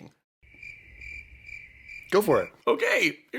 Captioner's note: crickets